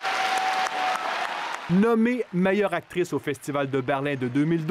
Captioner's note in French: applaudissements